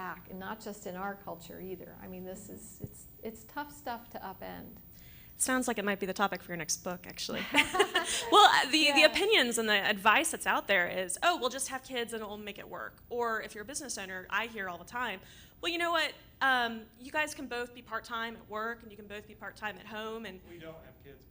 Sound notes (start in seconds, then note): 7.4 laughter